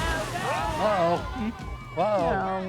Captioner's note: family cheers